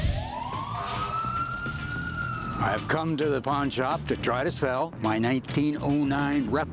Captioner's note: none